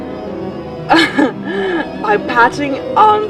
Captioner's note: laughs